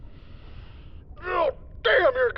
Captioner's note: grunts in frustration